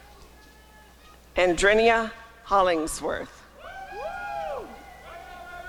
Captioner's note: applause and cheering